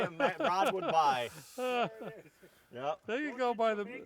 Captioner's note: chuckling